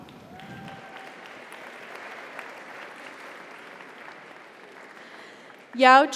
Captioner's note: audience applauds; audience cheers